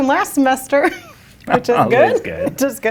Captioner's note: laughs